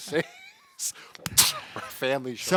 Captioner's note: laughing